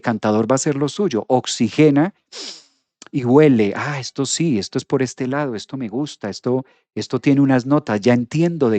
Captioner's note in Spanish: resoplido